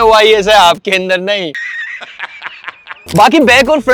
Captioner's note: laughs